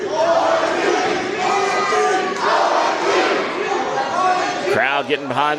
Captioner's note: crowd Chanting